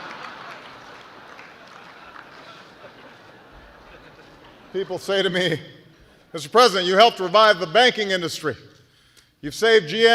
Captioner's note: laughter